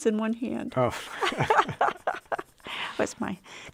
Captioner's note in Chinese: 笑聲